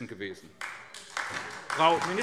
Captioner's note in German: Beifall SPD